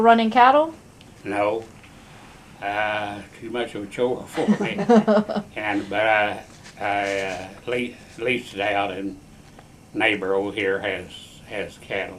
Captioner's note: laughter